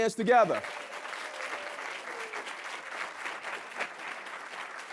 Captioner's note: audience clapping